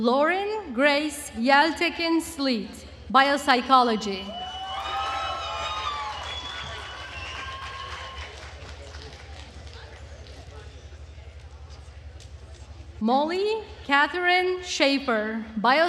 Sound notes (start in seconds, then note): 4.3 attendees cheering and applauding